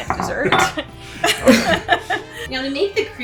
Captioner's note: everyone laughs